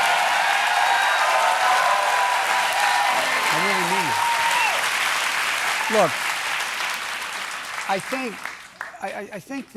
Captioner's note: cheers and applause